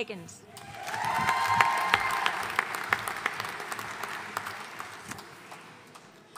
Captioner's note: audience cheering and applauding